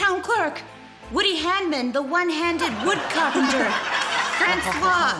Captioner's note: laughter; laughs in french accent